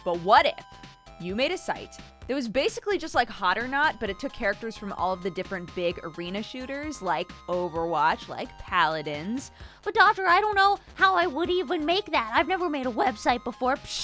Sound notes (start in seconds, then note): 9.5 high-pitched voice